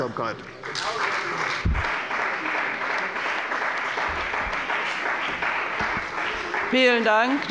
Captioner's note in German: Beifall bei der CDU und dem BÜNDNIS 90/DIE GRÜNEN